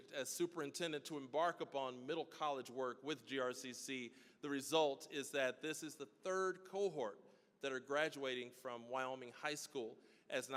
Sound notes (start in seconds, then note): none